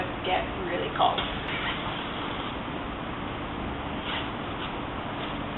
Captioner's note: zipper whooshing